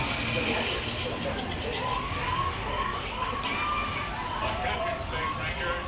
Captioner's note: ride noises